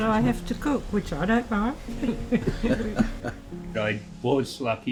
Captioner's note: laughs